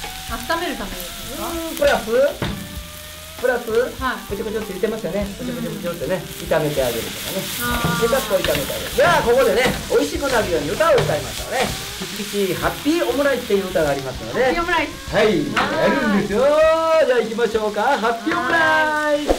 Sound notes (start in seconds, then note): 3.8 sizzle